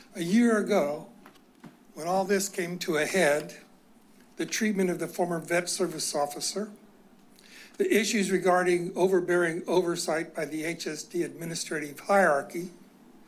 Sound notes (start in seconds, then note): none